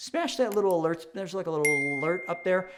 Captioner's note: bell rings